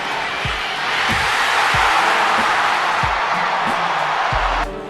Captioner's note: cheering